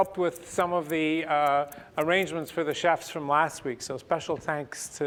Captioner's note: none